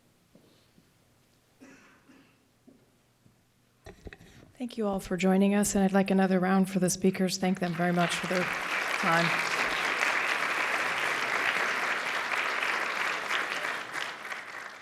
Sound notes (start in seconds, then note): 7.9 applause